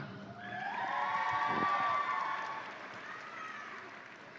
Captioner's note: audience cheering